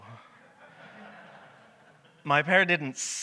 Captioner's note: audience laughs